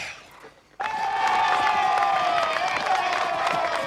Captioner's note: bloodthirsty cheering